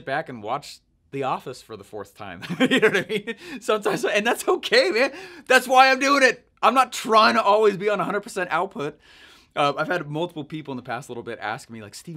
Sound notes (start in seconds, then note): 2.5 laughing